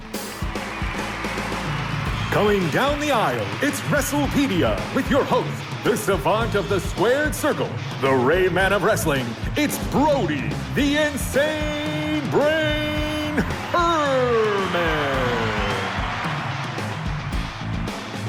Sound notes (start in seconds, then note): 0.1 upbeat music; 2.4 fans cheering; 14.8 crowd cheering